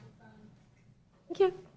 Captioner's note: off microphone